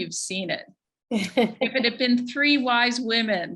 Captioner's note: chuckles